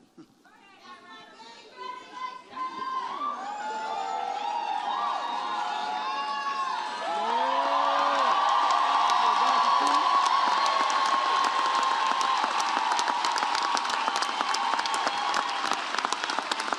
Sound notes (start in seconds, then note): 3.6 audience cheers